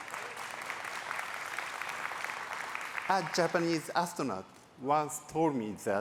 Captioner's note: applause